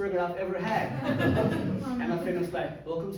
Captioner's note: crowd laughs